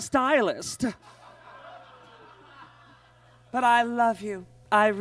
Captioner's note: audience laughs